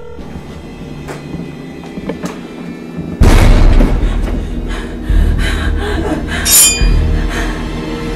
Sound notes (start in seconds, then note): 0.0 ominous music; 4.2 Jennifer panting